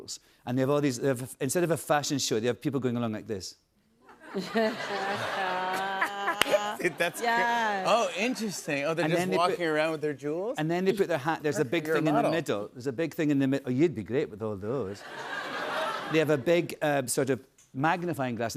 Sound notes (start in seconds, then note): 4.1 laughter